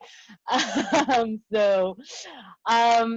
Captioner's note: laughs